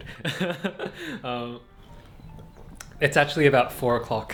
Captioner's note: laughs